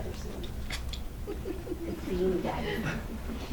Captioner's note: laughter